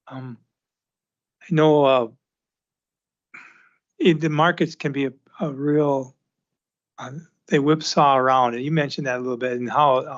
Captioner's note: clears throat